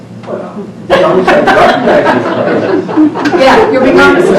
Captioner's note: audience laughter over response